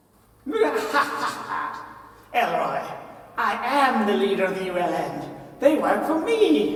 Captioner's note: laughs